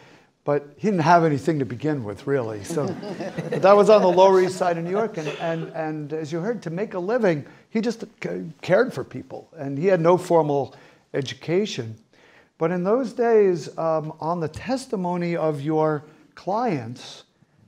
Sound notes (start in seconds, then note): 2.6 audience laughing